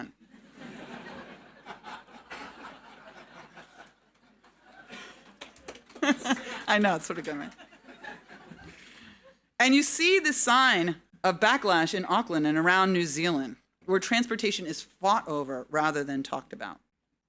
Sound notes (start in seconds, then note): 0.3 audience laughing; 4.9 laughs; 7.7 audience laughing